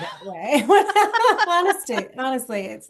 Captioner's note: laughter